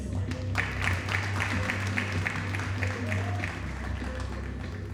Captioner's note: audience applauding